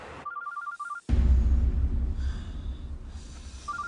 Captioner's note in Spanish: Suena el celular